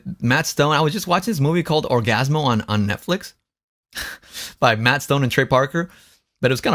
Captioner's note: laughs